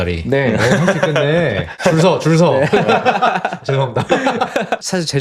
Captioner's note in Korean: 웃음